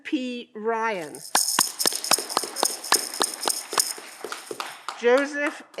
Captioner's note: audience clapping